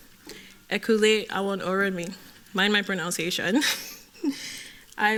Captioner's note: speaking yoruba